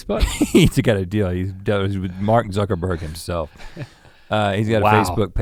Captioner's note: chuckles